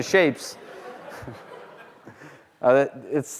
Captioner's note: laughter